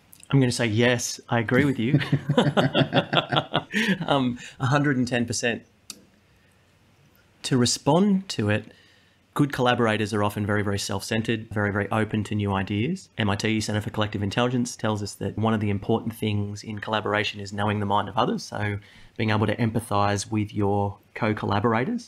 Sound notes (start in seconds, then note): 3.5 laugh